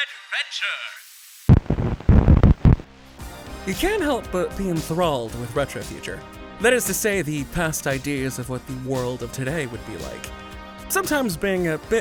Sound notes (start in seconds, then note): 0.6 TV Static Intensifies Into Reel Start